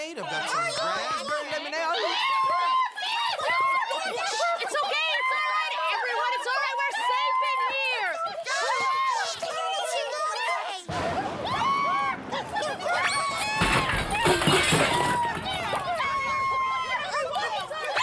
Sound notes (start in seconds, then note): 2.0 screaming; 8.3 screaming; 10.9 thunder crashes; 11.1 screaming; 13.3 dishes crash